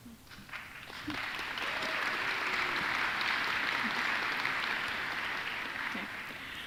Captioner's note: applause